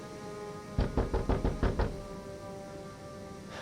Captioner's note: knocking